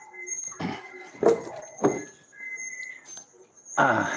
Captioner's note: clears throat